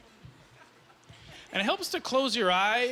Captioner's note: laughing